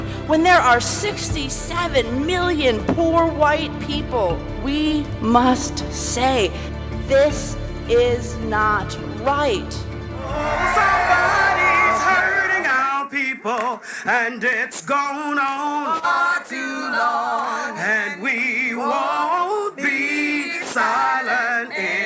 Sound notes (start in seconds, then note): 10.1 crowd cheering